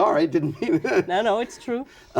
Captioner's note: laughter